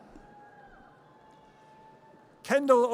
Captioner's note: audience cheers